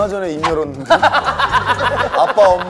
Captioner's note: laughing